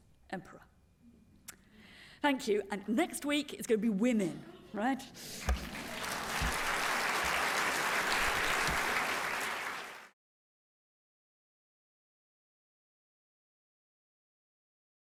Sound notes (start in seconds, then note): 5.5 applause